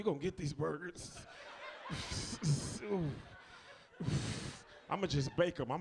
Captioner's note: audience laughs